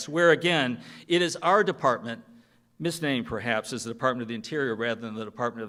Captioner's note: none